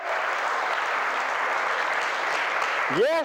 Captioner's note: applause